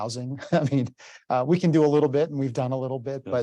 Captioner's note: chuckles